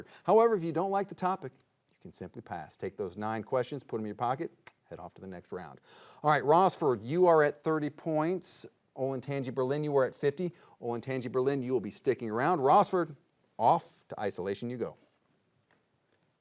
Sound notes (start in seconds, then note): none